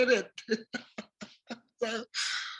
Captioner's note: laugh